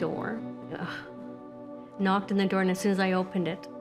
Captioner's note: sighs